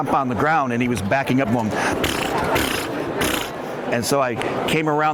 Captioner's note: mimics horse noise